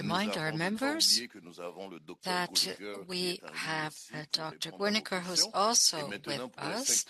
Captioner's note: speaking French